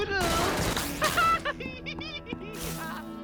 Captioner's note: gunfire; Genkins laughing gleefully